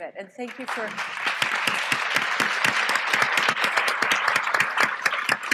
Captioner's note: applause